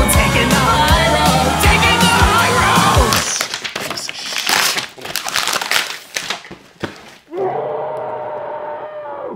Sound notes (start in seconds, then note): 3.3 mumbled swearing; 7.3 muffled scream